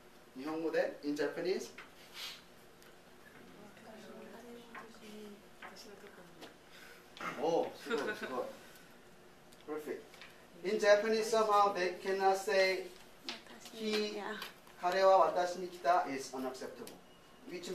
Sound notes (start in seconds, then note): 5.5 speaking japanese; 8.6 speaking japanese; 13.4 speaking japanese